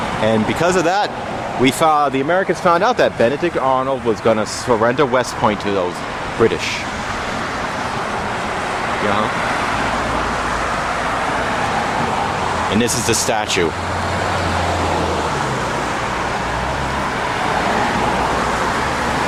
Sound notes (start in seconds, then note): 7.5 traffic Noise; 16.9 loud Traffic Noise